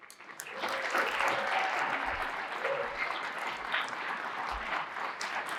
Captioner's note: audience applauding and cheering